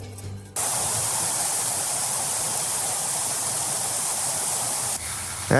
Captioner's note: hoofs clopping; river rushing